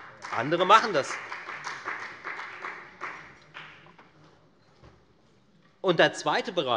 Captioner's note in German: Beifall bei der FDP